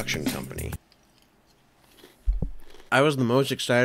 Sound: munch munch munch

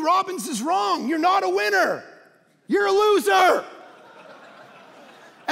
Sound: congregation laughing

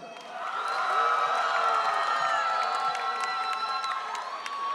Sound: audience cheering

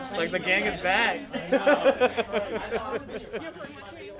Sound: laughs

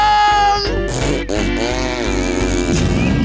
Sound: chuckling; fart noises

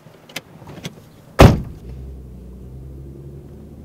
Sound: door slams

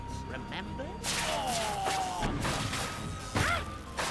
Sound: yelps

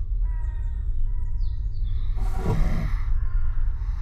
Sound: birds chirping

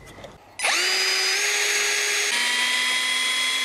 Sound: drilling

